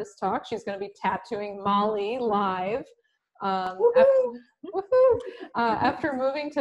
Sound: woohoos in background

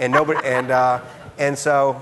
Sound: laughing

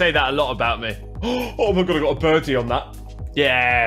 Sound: gasp

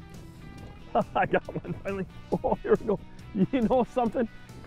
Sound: laughs

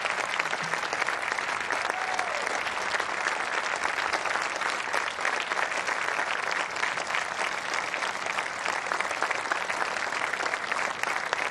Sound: applause

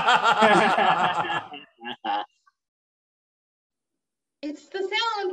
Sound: laughing

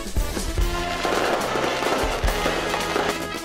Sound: sfx: fireworks exploding

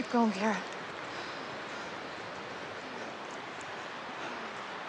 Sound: sound of rushing water intensifies

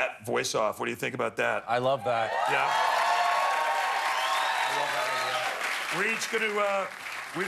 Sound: cheers and applause

